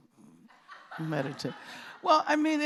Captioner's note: laughter